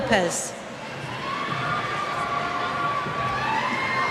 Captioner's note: cheers